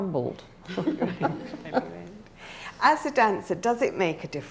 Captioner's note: laughing